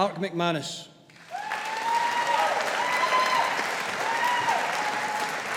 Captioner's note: audience applauding